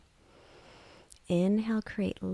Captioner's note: inhales